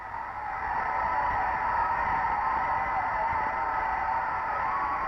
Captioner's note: crowd cheering